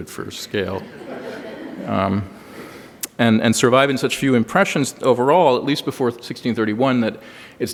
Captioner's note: laughter